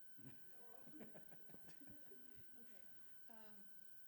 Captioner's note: laughing